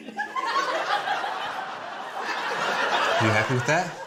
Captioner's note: laughter